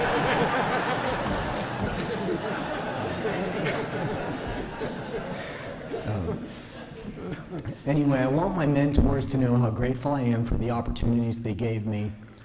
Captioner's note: laughter